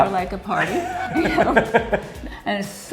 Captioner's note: laughing